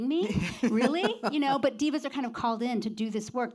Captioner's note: laughs